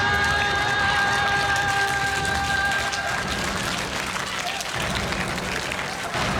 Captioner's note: applause